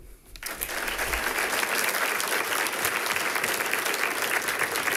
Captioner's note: people clapping